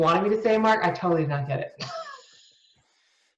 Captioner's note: laughs